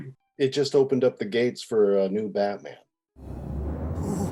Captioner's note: none